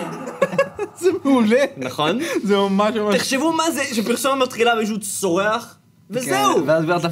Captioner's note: laughs